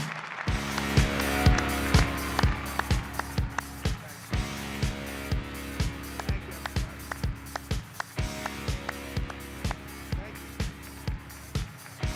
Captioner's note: applause